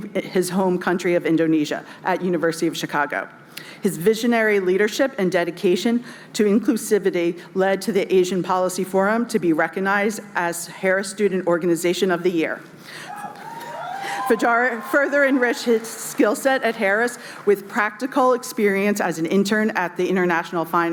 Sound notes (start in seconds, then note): 13.0 cheering